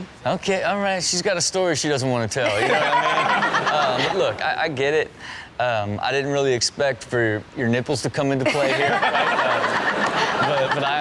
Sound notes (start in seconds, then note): 2.5 Chanel laughs; 8.5 everyone laughing